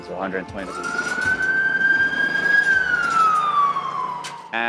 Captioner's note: siren blaring